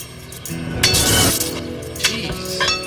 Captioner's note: sizzling